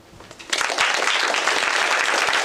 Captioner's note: applause